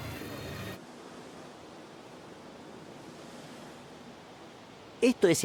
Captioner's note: gentle waves